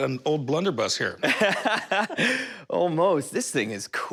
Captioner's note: laughs